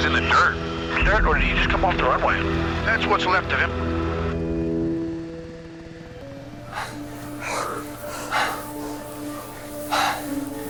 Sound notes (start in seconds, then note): 6.5 pilot panting